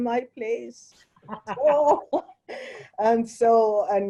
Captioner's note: both laugh